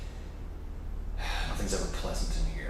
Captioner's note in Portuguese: NOUTH NOUTRE suspira